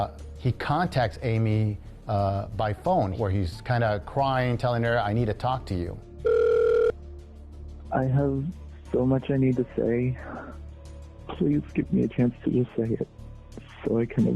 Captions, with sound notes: he contacts Amie by phone, where he's kind of crying, telling her, I need to talk to you. [line trilling]